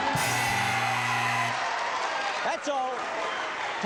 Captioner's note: buzzer